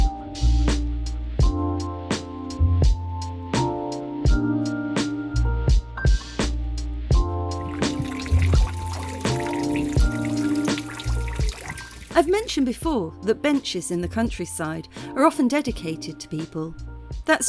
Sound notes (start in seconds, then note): 7.6 fountain; 8.3 chill music